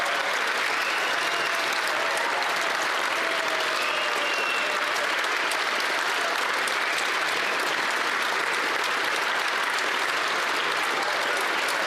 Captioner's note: some Applause